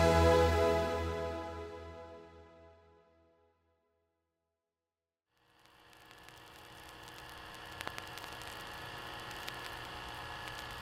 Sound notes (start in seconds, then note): 0.0 music echoes out; 7.2 VHS and static droning